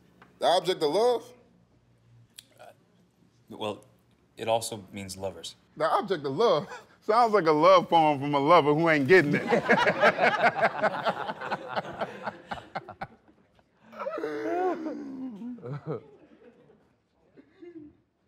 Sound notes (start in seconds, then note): 6.7 laughs; 9.2 laughter